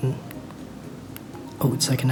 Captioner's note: click